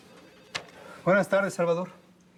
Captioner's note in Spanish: portazo